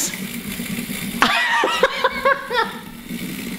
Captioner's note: laughs